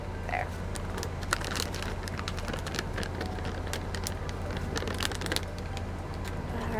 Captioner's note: bag crinkling; soft music